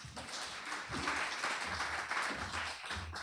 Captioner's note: applause